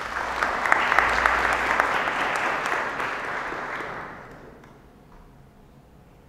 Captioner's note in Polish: oklaski